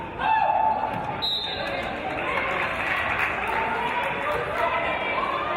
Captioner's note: referee's whistle